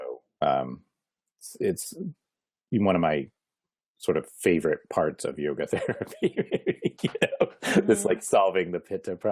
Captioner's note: laughing